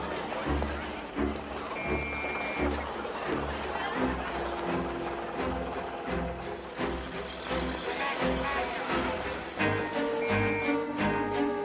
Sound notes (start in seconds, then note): 1.7 police whistle